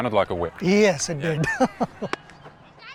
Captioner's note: chuckles